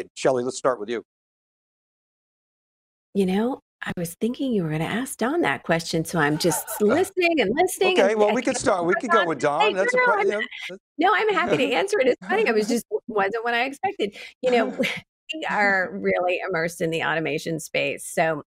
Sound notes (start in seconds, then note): 7.9 laughing